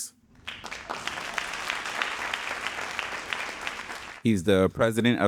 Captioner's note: audience applauding